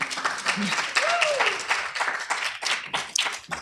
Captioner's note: applause